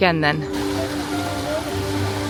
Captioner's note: water rushing; enchanting music